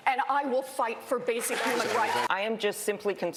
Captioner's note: crowd cheering